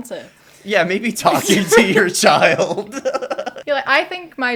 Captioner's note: laughter